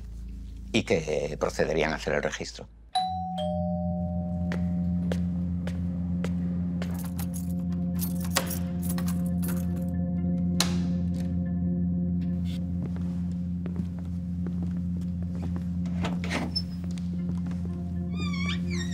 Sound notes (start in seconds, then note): 2.9 doorbell; 5.0 footsteps